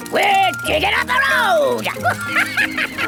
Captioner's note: chuckles